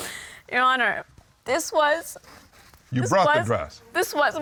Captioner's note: sobbing